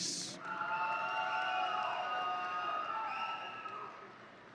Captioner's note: audience cheering